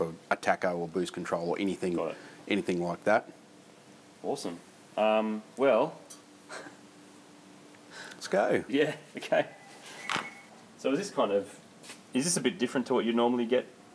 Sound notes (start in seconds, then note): 6.5 laughs; 9.4 phone rings